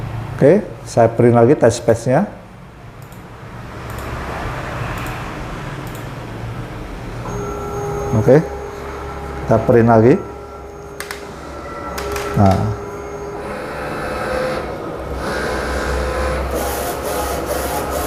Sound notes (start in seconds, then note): 2.7 clicking sound; 7.0 printer machine noise